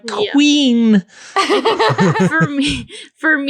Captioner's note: laughing